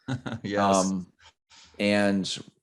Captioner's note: chuckles